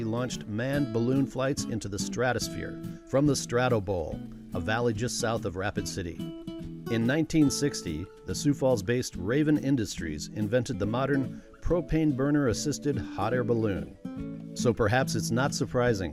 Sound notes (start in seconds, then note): none